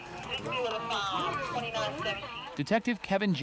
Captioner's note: sounds of arcade machine